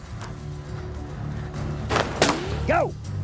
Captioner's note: gunshot